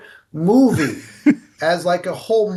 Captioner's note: laughing